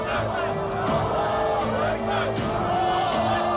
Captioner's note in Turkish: Hep bir ağızdan